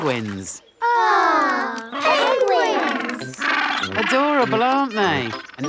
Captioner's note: penguins chatter